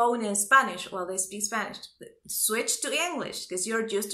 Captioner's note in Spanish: ellos hablan español